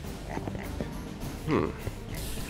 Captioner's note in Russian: тактичный вздох